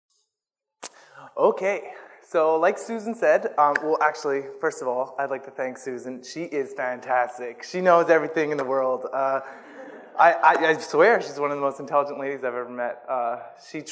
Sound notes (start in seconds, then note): 9.5 audience laughs